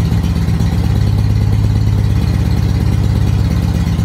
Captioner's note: engine picks up speed